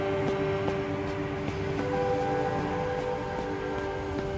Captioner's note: footsteps clacking